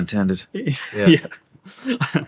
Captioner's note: laughing